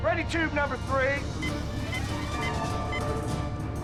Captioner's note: beeping